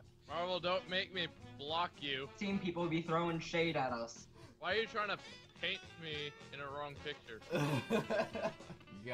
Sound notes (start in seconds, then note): 7.4 laughs